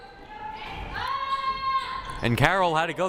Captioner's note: players shouting